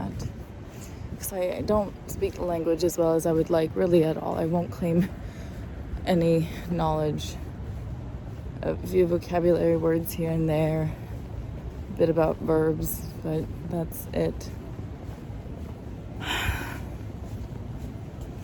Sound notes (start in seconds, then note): 16.2 sighs exhaustively